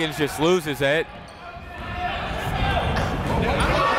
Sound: chatter

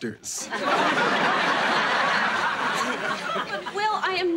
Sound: audience laughing

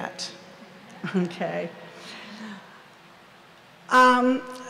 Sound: audience laughs

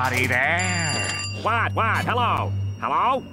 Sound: ringing

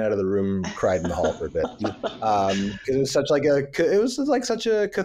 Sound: laughs

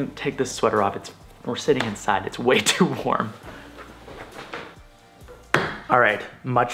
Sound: laughs

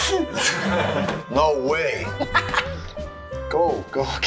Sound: giggles; laughs

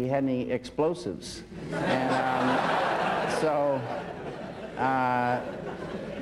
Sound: laughter

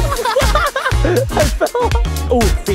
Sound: laughs

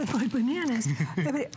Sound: laughter

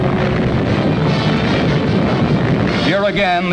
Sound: bomb blasting

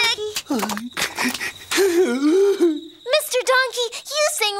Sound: sobbing

